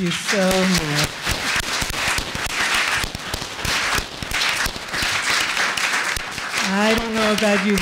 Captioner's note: applause